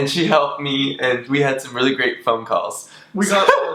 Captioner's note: laughs